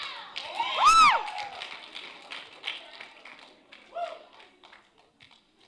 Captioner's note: cheering